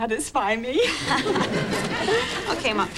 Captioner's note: chuckling